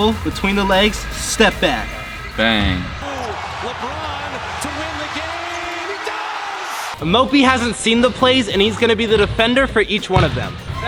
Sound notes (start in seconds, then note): 6.3 crowd cheers